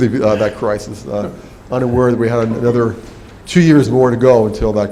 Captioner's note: laugh